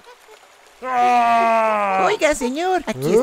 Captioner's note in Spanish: Grunido